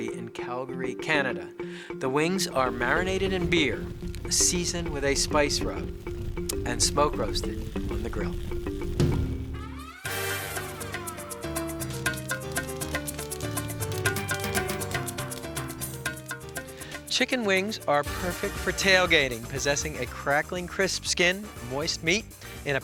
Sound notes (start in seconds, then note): 9.0 fire crackling; 9.0 upbeat music